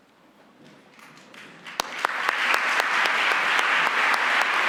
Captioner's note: audience applauds